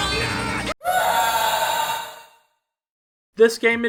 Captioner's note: audio of a person screaming